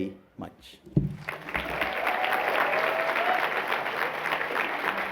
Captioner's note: cheering